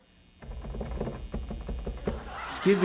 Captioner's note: tapping